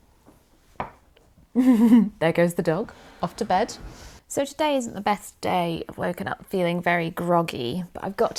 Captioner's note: laughs